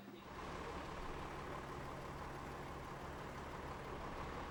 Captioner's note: engine stalls